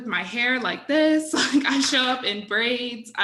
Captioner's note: chuckles